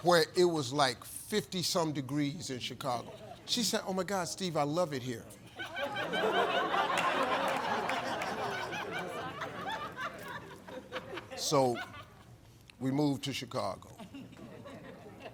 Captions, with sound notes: where it was like 50 some degrees in Chicago. She said, "Oh my god Steve, I love it here." (audience laughing and applauding) So, we moved to Chicago.